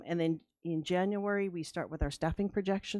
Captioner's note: none